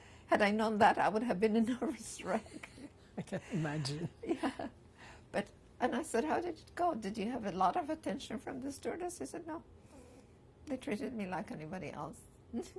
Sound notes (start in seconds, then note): 3.2 laughter